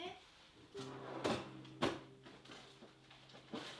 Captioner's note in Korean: 달그닥 - 간식통 여는 소리